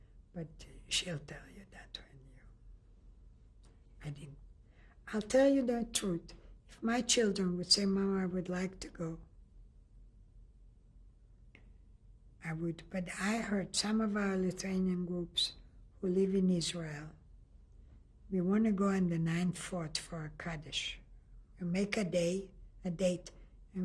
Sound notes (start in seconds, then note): 9.7 pauses for 3 seconds